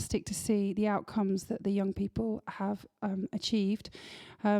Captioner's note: none